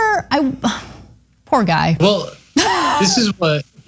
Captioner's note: laugh